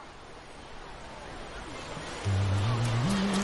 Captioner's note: sounds of ocean waves and people, fading in; ocean waves; sandy footsteps getting closer, from the left; ghoulish music fading in